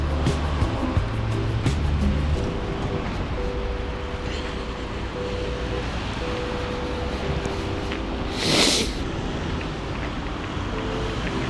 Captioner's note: wind Blowing